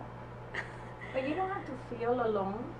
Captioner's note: laughs